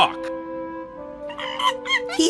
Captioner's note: monkey noises